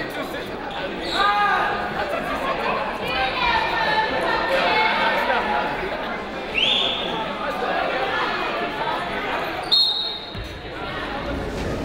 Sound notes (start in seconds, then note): 3.3 people shouting in the crowd; 6.5 whistling; 9.7 whistle tweeting; 11.6 people shouting in the crowd